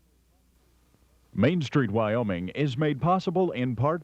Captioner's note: voiceover